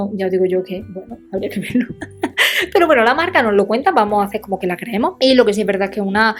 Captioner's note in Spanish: risas